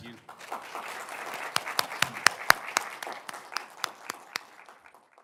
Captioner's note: applause